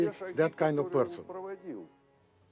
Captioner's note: speaks in foreign language